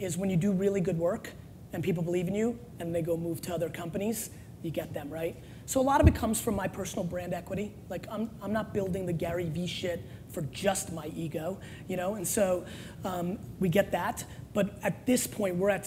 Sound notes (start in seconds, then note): none